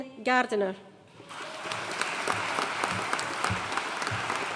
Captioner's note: audience applauding